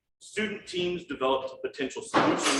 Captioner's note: none